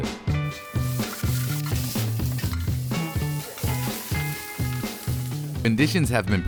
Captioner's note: pan sizzling; upbeat music